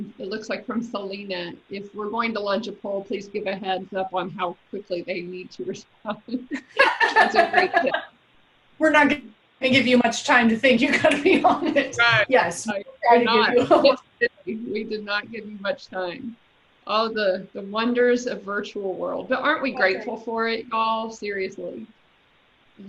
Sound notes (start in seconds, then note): 6.2 laughs